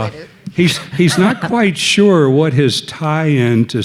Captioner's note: laughing